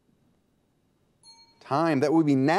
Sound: timer dings

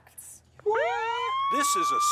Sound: alarm blares

